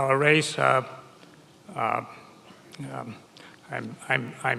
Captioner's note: none